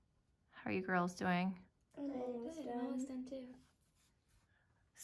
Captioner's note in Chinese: 女孩們齊聲說